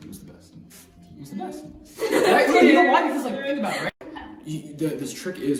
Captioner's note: laughter